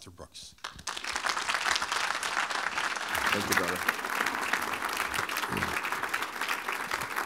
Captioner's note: applause